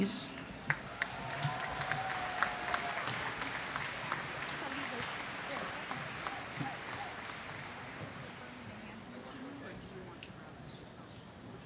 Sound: applause

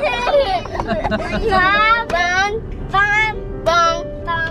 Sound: giggling

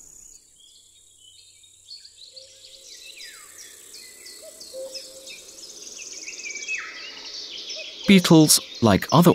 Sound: lively music, sounds of nature; sounds of nature, birds singing

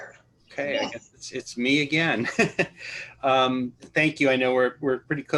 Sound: laughter

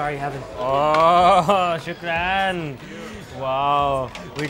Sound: speaking in foreign language

